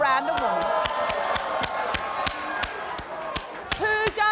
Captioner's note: applauding